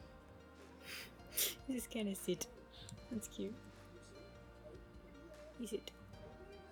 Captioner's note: laughs